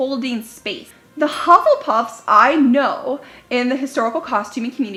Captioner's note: dings